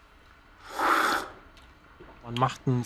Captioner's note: slurping